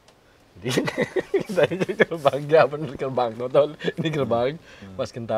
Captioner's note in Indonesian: tertawa